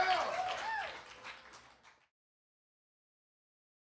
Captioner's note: audience cheers and applauds